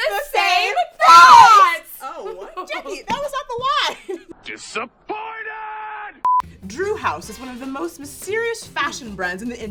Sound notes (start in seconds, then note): 3.8 laughs; 6.2 beep